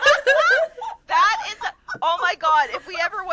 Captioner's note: laughter